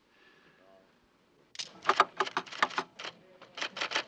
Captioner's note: camera clicks; typewriter whirs